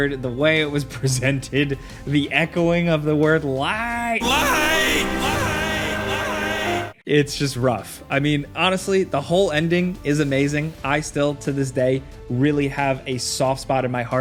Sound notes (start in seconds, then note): 4.2 echoing